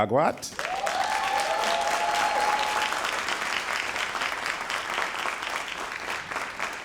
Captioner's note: all applauding and cheering